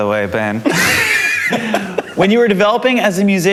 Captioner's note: all laughing